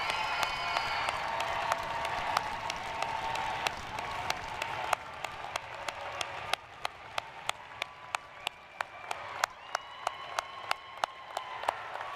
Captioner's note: cheers & applause